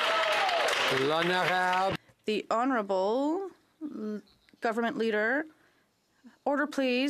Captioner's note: some Applause